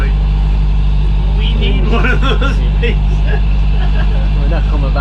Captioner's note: laughter